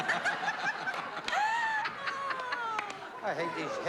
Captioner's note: all laughing